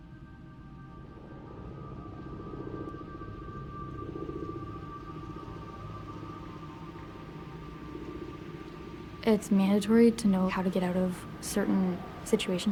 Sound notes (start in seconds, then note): 2.7 airplane rumbles